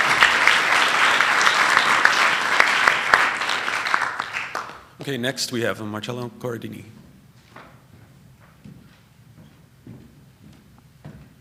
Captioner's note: applause